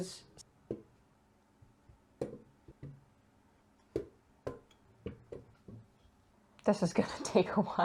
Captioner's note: cones stamping on scales